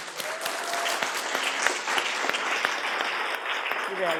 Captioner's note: applause